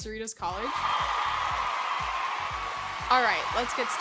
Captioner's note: crowd cheers